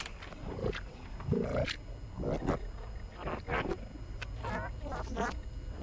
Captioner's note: distorted growling and voices